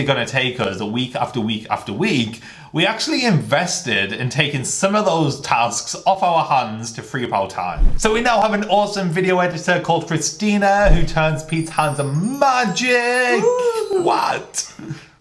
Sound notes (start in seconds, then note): 10.9 twinkling